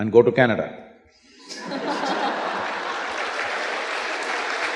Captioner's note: laughter